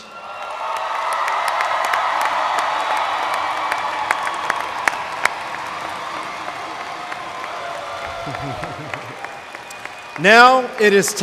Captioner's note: cheers, applause